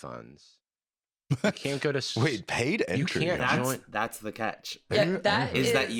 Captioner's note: laughs